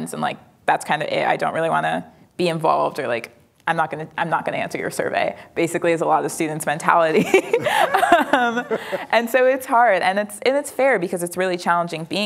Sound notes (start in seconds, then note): 7.2 laughing